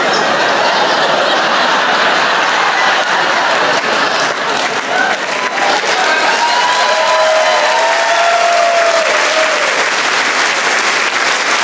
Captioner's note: laughter